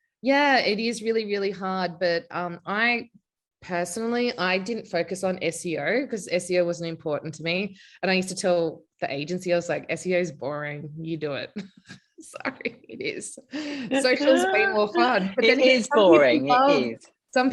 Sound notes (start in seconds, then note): 11.8 laughing